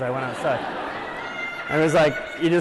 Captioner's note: laughter